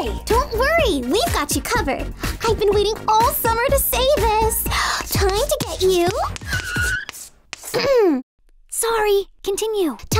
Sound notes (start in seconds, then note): 6.0 chalk squeaking; 6.2 tires screech; 7.7 clears throat